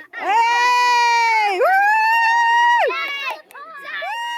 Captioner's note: cheering and whooping